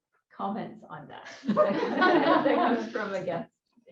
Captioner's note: laughter